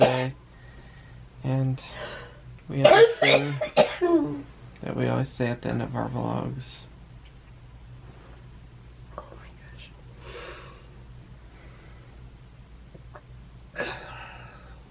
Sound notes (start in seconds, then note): 9.1 whispering